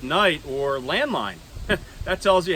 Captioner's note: laughs